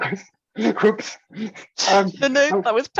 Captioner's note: chuckles